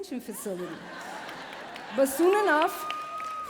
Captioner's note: laughing and cheering